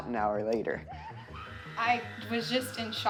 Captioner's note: woman screaming